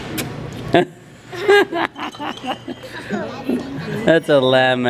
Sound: laughing

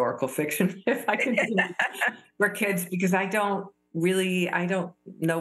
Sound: laughter

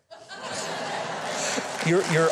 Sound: audience laughing

